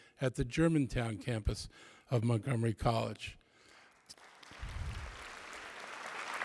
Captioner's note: applause